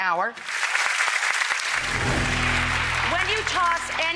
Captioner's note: audience applauds